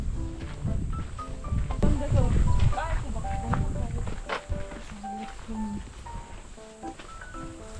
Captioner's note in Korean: 조잘조잘